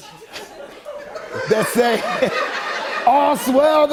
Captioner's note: laughter